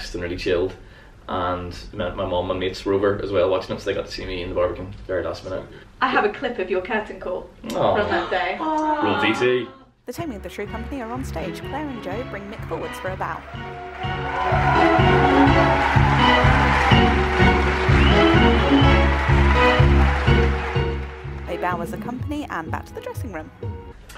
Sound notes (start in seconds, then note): 13.4 cheers